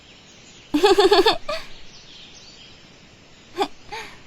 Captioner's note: Acela giggling